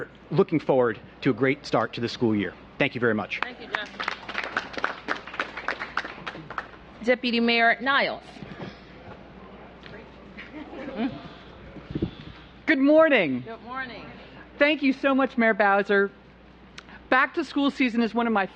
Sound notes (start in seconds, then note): 3.4 applause